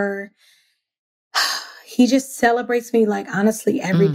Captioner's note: sighs